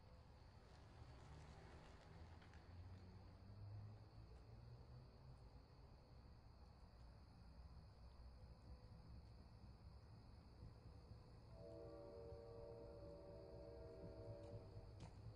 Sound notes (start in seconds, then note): 0.6 bicycle passes; 11.4 train whistle in distance